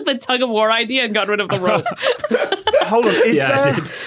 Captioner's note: group laughing